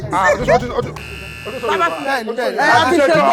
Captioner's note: buzzer pressed